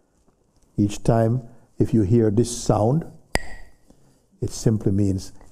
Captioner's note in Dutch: klakt met stokjes